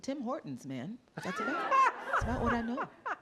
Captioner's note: laughter